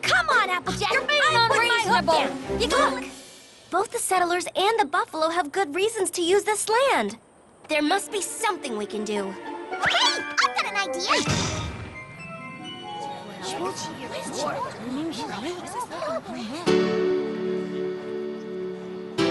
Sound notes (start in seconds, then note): 11.2 thud!; 16.6 piano plays